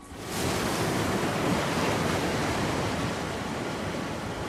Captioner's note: surf noise